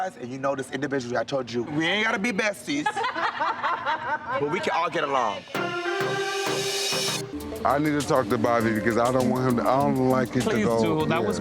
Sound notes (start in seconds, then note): 2.8 people laughing; 5.5 people speaking indistinct; 7.7 chill hip-hop music